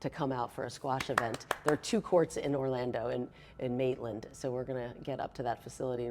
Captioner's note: clapping